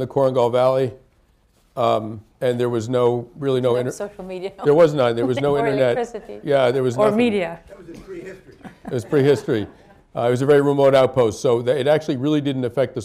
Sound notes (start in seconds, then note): 4.6 laughs; 8.2 laughter